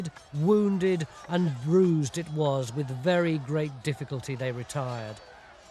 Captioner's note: sounds of battle